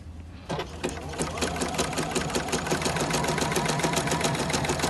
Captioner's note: machine Noise